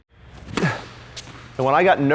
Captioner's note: racket hitting the ball